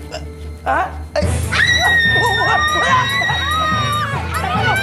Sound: screams

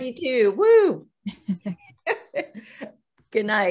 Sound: both chuckling

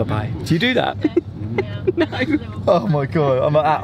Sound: laughing

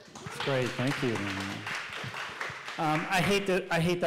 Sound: clapping

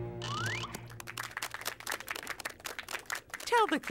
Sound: clapping

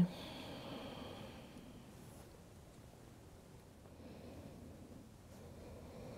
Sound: breathing

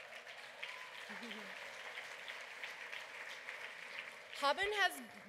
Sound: applause

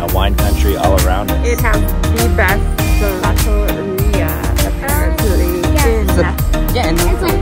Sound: foreign language

